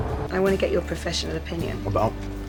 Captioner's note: voiceover